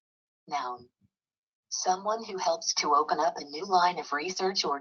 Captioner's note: computerized Voice